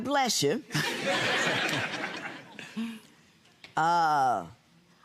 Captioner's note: audience laughing